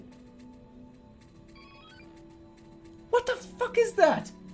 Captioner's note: quieter beep